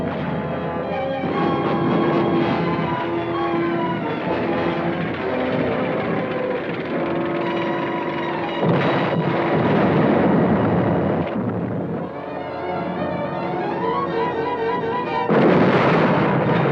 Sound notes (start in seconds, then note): 1.3 dramatic orchestral music; 9.1 cannons blasting